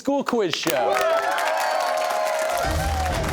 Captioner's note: cheers and applause